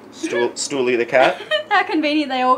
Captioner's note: laughs